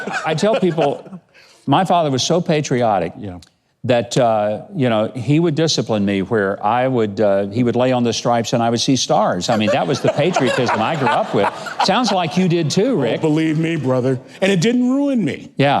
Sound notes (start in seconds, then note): 9.5 laughing